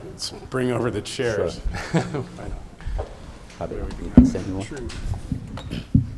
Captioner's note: chuckles